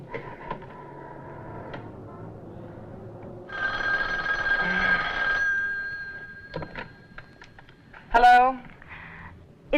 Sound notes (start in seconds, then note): 3.4 phone rings